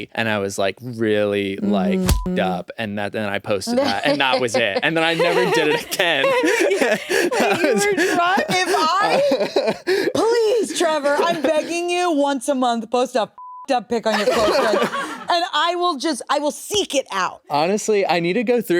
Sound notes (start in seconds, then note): 1.9 beep; 13.4 beep